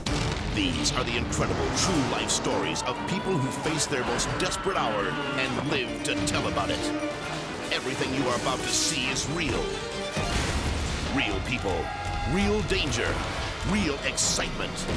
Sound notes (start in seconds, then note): 10.1 explosion blasts